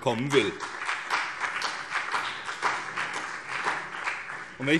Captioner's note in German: Beifall BÜNDNIS 90/DIE GRÜNEN und vereinzelt CDU